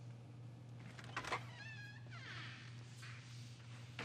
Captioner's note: door creaking